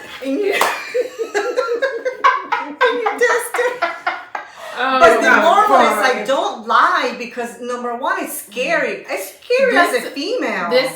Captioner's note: laughter